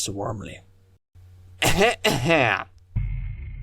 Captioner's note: cough! Cough!